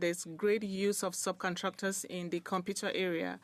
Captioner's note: speaking in French